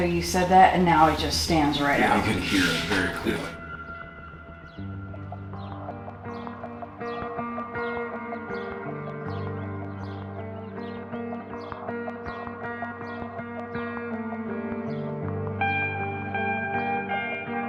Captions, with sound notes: and now it just stands right out. - Yeah, I can hear it very clearly. (mellow music) (birds chirping) (mellow music continues)